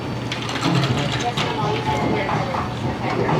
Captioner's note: ice rattling; faint upbeat music